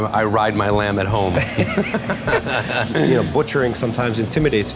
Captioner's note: laughter